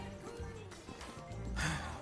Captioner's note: sighs